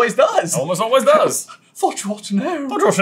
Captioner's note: accented